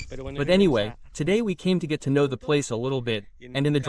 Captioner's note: beeping